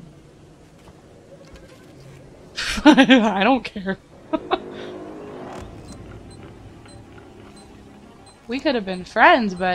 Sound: laughs

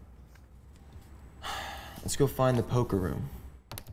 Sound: sighs

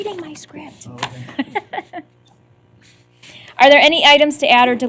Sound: laughter

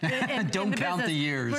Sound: laughter

